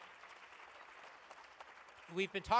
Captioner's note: applause